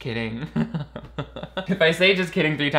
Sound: laughing

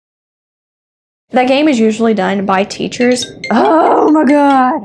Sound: phone rings

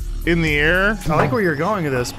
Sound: bonk

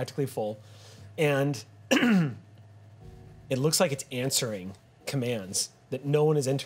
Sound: clears throat

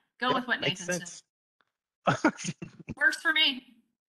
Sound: chuckles

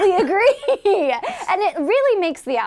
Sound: laughing

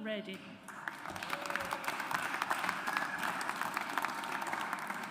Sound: audience applauds

